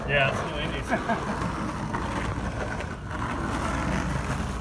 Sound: laughing

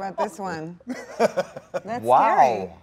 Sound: Dwayne laughs

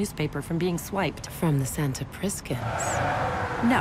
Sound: tires squeal

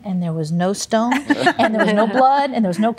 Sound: laughter

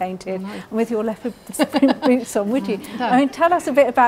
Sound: laughing over talking

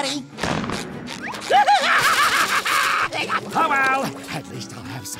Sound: shrieking

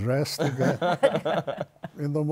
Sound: laughter

